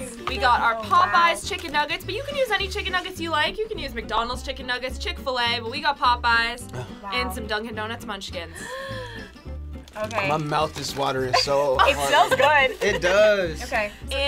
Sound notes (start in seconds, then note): 8.5 gasps; 11.3 laughing